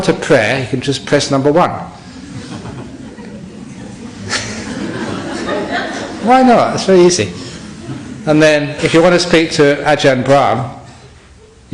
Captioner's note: laughter